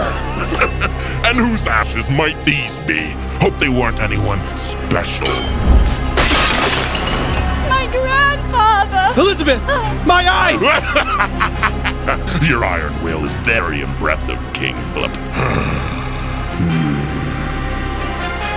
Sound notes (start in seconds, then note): 0.0 Gotoh chuckling; 5.2 ceramics Crashing; 7.8 whining; 10.6 Gotoh cackling evily; 15.3 gotoh growling frustratingly; 16.6 grunting determinedly